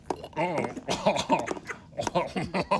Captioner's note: gags; laughs